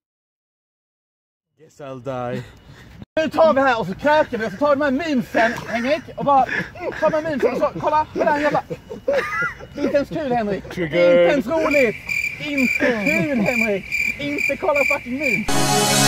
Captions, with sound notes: Guess I'll die! Let's get our shit together and drink, and let's take these memes later, Henrik, and [complains in skånska]